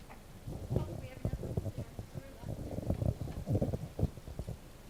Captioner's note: speaking off mic